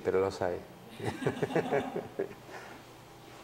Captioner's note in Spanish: risas